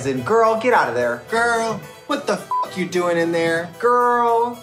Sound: beep

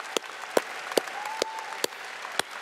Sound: audience applauding

